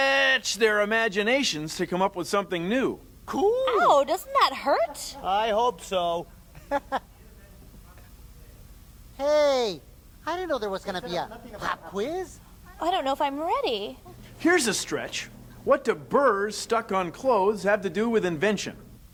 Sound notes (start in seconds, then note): 6.5 laugh